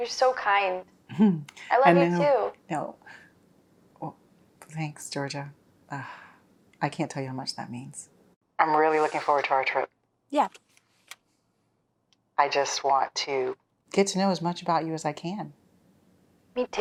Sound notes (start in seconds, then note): 6.0 Meredith sighs